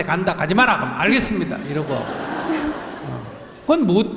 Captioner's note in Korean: 질문자와 청중 웃음